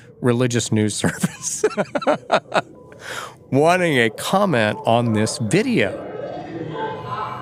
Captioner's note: laughs